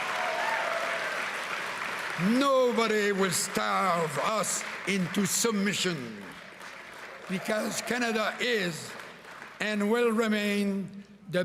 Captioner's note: cheering and Applause